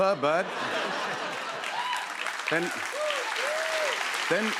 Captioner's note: laughter and applause